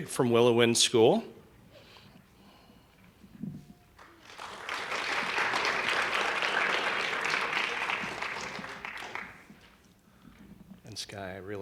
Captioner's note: applause